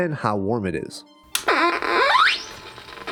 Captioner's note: awful electronic farting noises; static